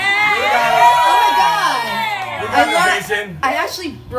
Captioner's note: crowd cheering